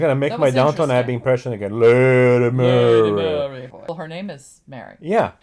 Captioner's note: low voice